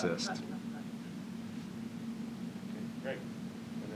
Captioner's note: laughter